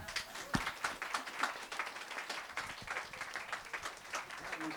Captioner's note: applause